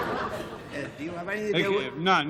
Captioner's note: laughter